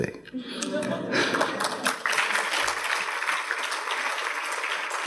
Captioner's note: audience applauding